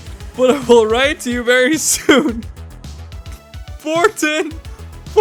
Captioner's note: laughing; continues laughing